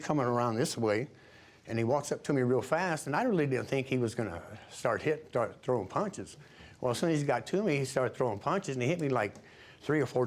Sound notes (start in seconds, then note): none